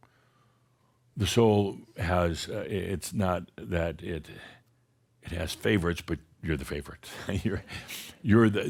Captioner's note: chuckles